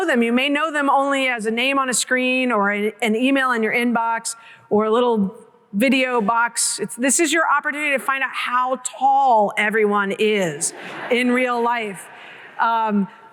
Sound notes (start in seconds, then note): 10.6 laughter